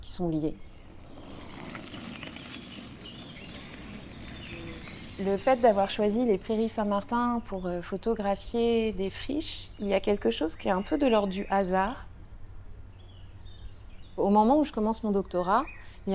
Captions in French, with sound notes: [bruit de vélo] [bruits d'oiseaux] Dans le fait d'avoir choisi les Prairies Saint-Martin pour photographier des friches, il y a quelque chose qui est un peu de l'ordre du hasard. Au moment où je commence mon doctorat,